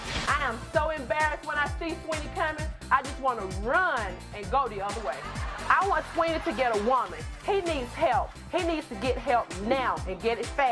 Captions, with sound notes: I am so embarrassed when I see Sweeney coming, I just want to run and go the other way. (audience laughter) I want Sweeney to get a woman. He needs help. He needs to get help now and get it fast